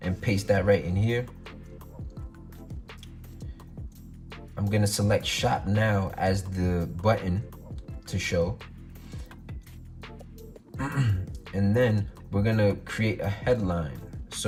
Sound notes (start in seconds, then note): 1.7 groovy music; 10.7 clears throat